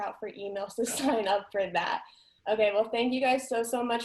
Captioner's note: chuckles